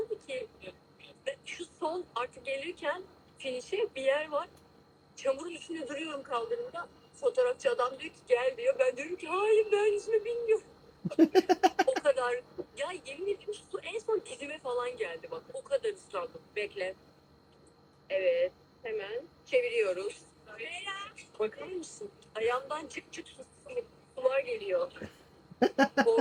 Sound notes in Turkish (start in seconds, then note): 11.0 kahkaha